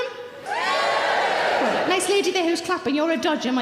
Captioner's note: audience members cheering